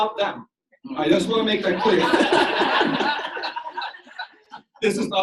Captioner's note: audience laughs